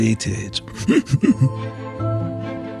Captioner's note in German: lacht